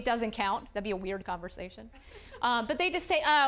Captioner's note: audience chuckling